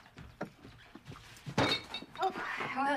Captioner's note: bumps Table